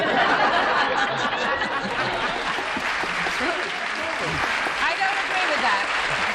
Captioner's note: laughter